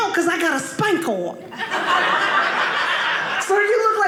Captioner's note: audience laughing